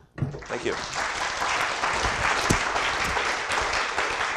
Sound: applause

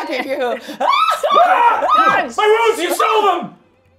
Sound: screams

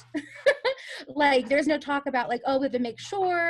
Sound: laughs

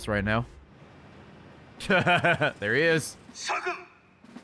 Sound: laughs

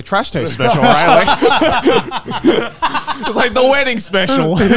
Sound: all laughing

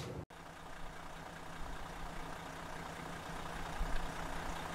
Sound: car engine roars

